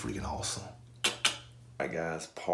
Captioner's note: tongue clicking